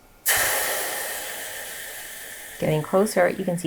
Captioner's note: water sizzling